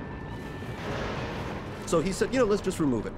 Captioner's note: water splashing